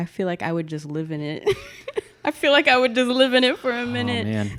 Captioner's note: laughs